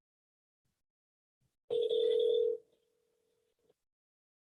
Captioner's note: phone ringing